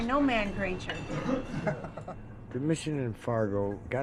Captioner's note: man chuckles